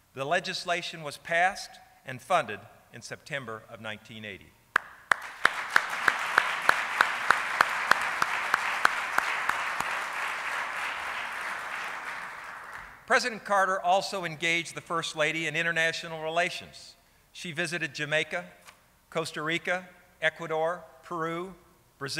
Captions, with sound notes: The legislation was passed and funded in September of 1980. (applauding) President Carter also engaged the first lady in international relations. She visited Jamaica, Costa Rica, Ecuador, Peru,